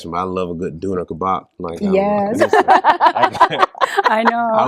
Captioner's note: laughter